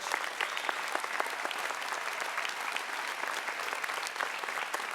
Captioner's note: applause